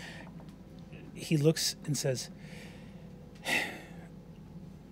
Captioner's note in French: soupire